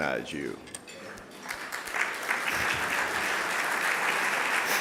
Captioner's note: applause